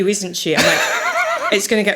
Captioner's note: laughing